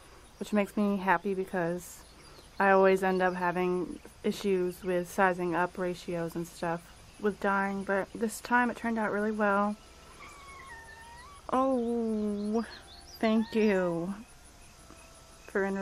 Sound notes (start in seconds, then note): 10.1 cat cries